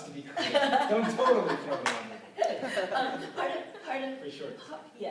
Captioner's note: laughter